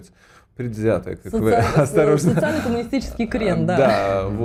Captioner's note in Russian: смех